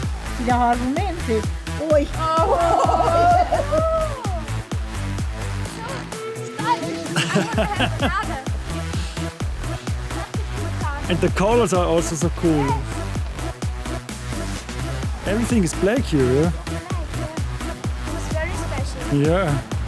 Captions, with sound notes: [laughing] It's so stylish, I want to have a Lada! – Such a cool car. – And the colors are also so cool. – Everything is black here! – It's all black, looks very special.